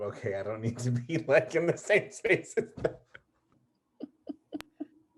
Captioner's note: laughs